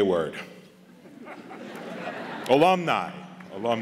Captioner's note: audience laughs